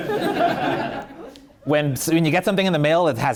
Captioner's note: laughing